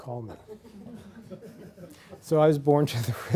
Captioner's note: laughter